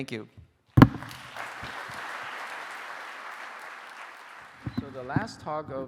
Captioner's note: audience applauding